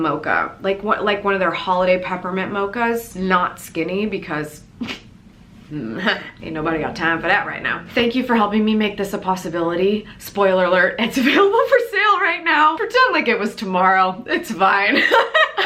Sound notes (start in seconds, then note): 5.9 gags; 14.9 laughs